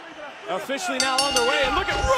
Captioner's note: bell ringing